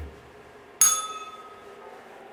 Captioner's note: bell rings